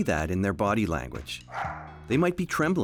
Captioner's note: dog barking